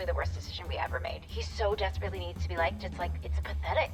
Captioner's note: none